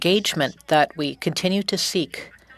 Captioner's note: speaking French